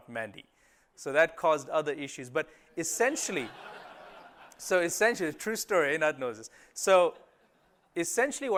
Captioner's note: laughter